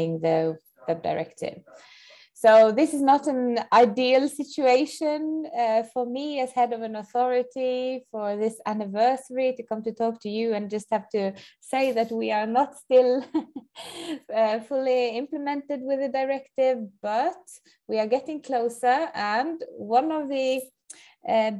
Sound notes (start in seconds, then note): 13.2 chuckles